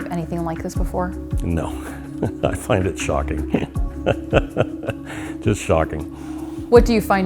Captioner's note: laughing